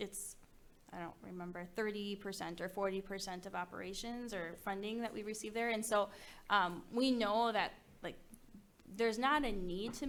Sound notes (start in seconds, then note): none